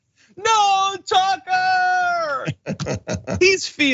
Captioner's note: laugh